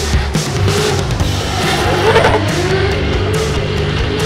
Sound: engines revving; upbeat music

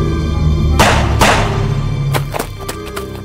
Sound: gunshots; footsteps running away

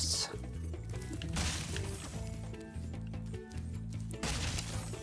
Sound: chest bangs

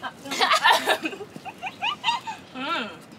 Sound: giggling

